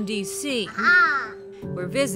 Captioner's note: child exclaims